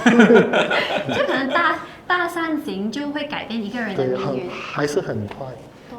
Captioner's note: laughter